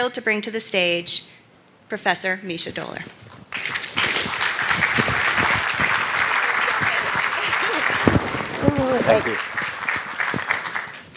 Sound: applause

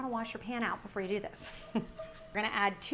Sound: laughs

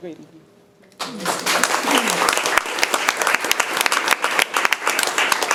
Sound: people clapping

